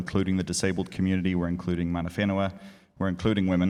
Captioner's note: speaking in foreign language